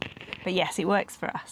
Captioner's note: George purrs and plays with the mic